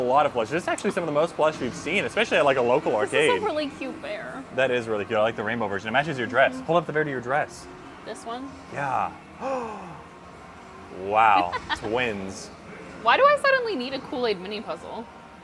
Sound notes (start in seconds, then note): 9.4 gasps; 11.3 laughs